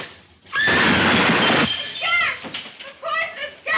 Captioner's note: gas breaking; Mary screams; beaker explodes